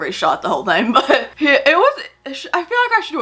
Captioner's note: laughs